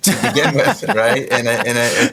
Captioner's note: laughs